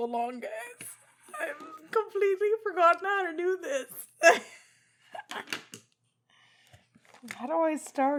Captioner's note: laughs